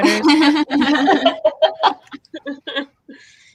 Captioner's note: laughing